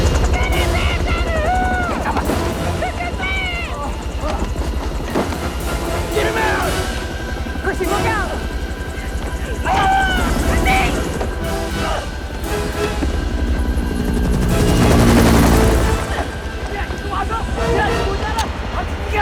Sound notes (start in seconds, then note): 9.6 Chrissie Yells; 16.1 Kang Shouting In Korean